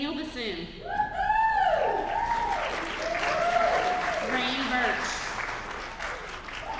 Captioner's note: applause